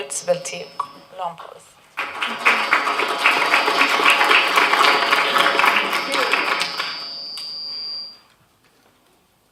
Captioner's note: applause